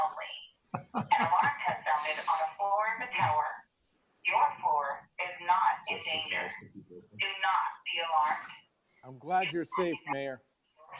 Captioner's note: laughter